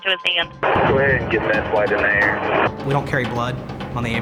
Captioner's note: voiceover